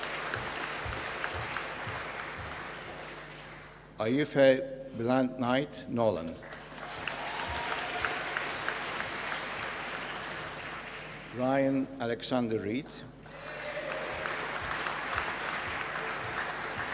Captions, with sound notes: Aoife Bláthnaid Nolan. (APPLAUSE) Ryan Alexander Reid. (APPLAUSE)